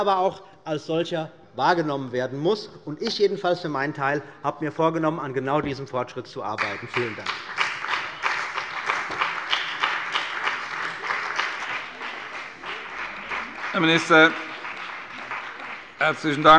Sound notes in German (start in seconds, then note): 8.3 Beifall bei der CDU und dem BÜNDNIS 90/DIE GRÜNEN